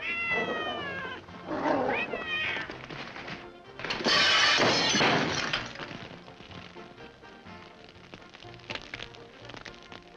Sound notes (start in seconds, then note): 0.0 cat meows; 1.4 dogs growling; 3.9 lamp smashes & explodes; 8.2 fire crackling